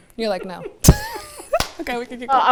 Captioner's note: all laughing